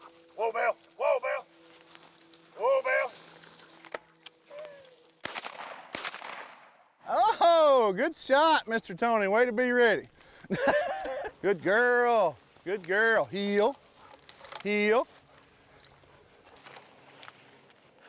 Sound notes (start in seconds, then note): 0.0 dogs panting; 5.2 gun firing; 10.4 laughs